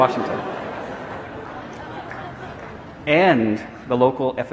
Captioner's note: audience laughing